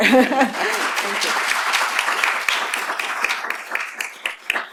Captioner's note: applause